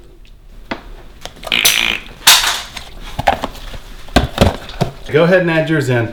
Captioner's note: slime makes splashing and plopping noises